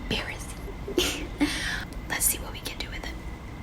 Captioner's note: laughs